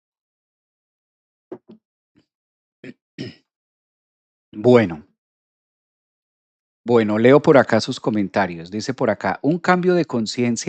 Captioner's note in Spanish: carraspeo